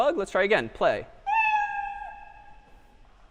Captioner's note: meow